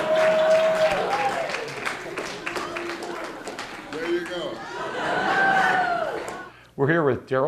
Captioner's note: laughter, Applause